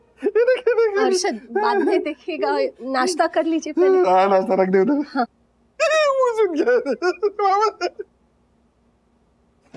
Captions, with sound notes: - Look! - Harshad, don't watch it. - Have your breakfast first. - Keep it there. [laughs]